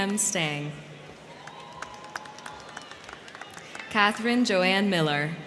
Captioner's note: crowd cheering; crowd clapping